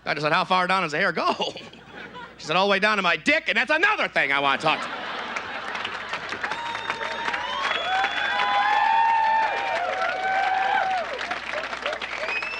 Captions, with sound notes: Doctor said, "How far down does the hair go?" She said, "All the way down to my dick, "and that's another thing I want to talk to you about." (audience applauds)